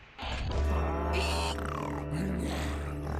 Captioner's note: gasping; growling